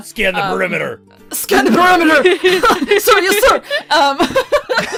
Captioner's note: laughter